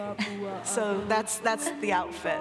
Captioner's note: Paulina laughing